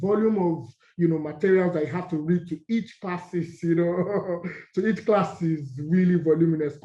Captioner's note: laugh